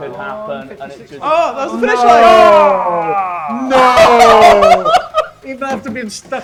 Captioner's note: men shouting and laughing